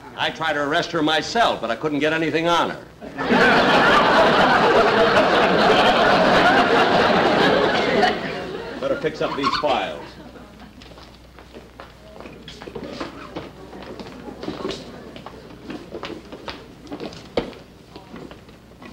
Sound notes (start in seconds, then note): 3.0 audience Laughing; 10.8 hurried Footsteps